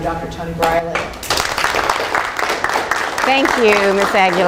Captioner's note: all applause